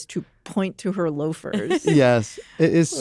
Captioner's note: laughs